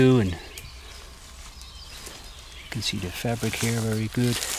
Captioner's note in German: Vögel zwitschern